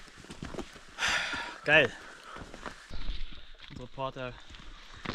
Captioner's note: exhale